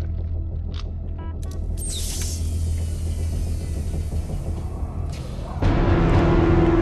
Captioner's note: keypad beeps; door hissing; ominous music rising